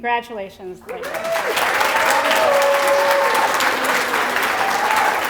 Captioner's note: applause